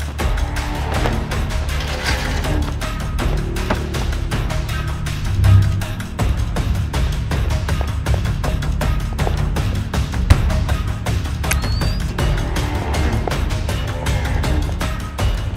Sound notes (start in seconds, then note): 11.5 receiver activates